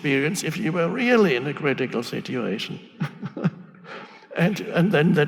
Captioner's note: laughs